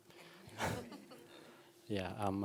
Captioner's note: laughter